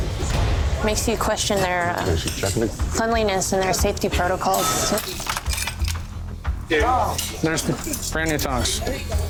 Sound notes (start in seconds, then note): 5.0 ice clicking